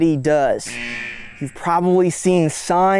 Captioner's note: alarm sounding